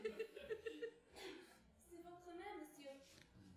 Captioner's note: cough